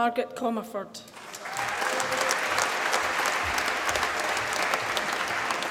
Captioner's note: applause